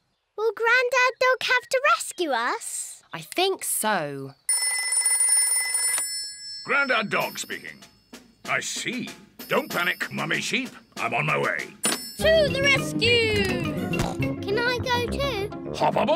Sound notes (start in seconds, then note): 4.5 rings; 14.2 snorts